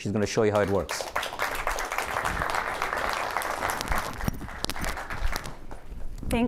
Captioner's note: applause